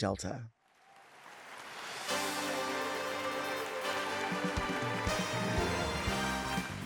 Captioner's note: audience applauds; upbeat music begins